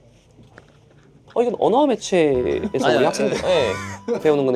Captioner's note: confused